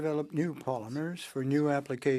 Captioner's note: speaking French